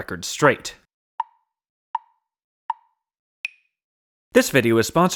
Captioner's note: tick, tick, tick, tick, tock